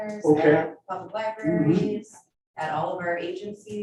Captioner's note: mmhmms